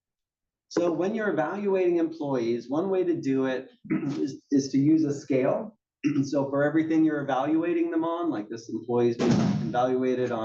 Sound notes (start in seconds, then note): 3.8 cough; 6.0 cough